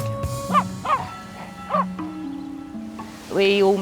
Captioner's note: Jess barking